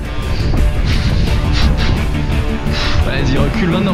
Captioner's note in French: souffle comme un boeuf